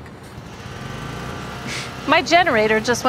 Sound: machinery buzzing

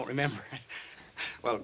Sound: bartender nervously laughs

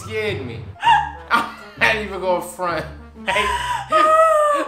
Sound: laughs; laughs

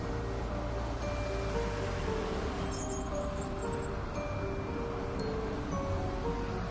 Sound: mysterious music; traffic humming

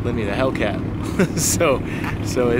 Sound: laughs

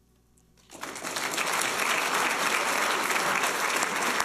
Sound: applause

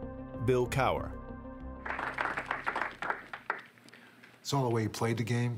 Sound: applause

